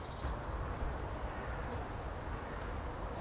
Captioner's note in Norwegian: fluer surrer